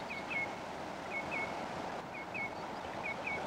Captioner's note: birds singing